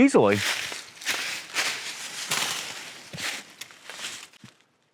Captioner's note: leaves crunching